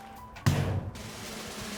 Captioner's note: click thuds; drum rattling